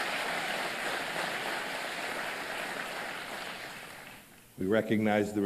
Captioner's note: applause